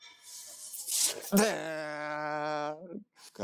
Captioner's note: imitating engine